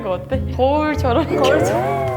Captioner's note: laugh